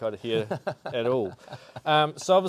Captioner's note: chuckling